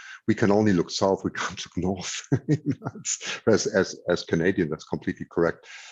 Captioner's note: laughs